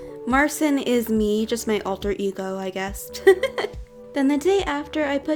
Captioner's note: laughs